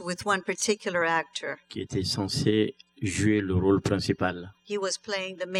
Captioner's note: speaking french